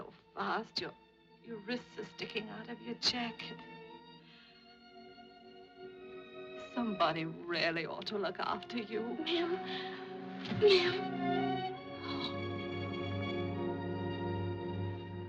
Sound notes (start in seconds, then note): 10.6 crying